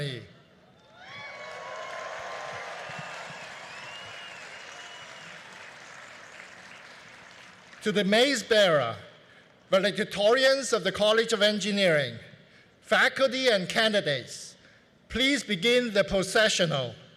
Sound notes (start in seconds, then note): 0.8 cheering; 4.0 applause